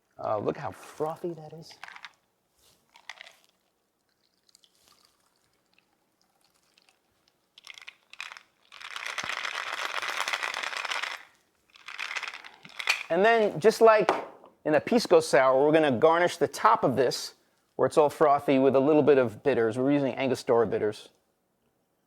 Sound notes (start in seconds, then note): 1.4 ice clatters; 3.9 liquid sloshing; 4.3 ice clunking